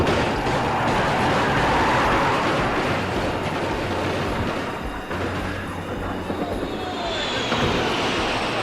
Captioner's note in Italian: esplosione